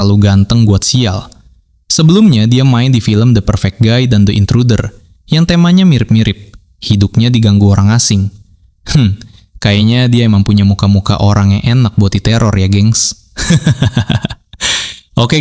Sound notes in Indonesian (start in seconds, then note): 8.9 berdehem; 13.4 tertawa